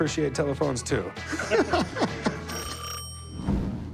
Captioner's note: both laugh